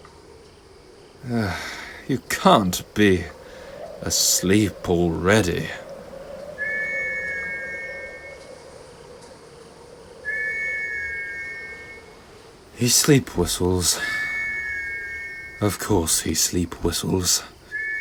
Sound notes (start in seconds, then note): 1.2 sigh; 6.5 THOMAS starts sleep-whistling